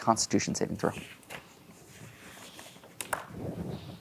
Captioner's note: pages rustling; pen clatters